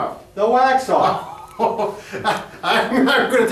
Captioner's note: laughs